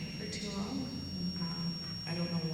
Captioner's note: microphone buzzing